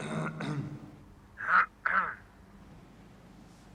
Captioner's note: Receiver: Karl clears throat; Karl clears throat